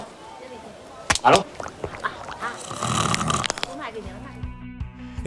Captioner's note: snoring, neck cracking